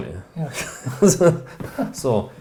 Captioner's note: chuckling